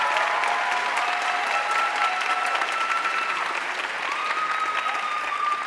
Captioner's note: audience cheering and applauding